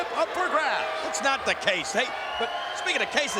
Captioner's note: audience jeers